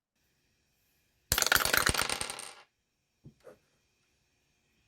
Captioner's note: more dice roll